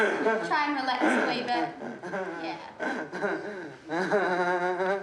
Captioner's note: continues laughing; continues laughing